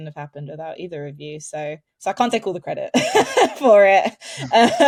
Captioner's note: chuckles